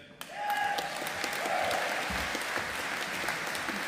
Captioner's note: audience applauding